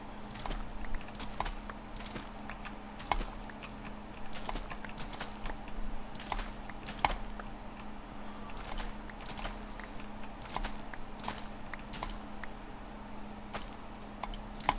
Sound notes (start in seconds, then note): 0.8 typing; 14.2 typing